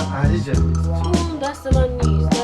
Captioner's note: non-english speech